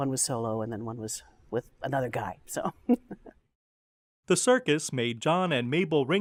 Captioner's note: laughs